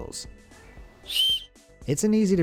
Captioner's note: blowing whistle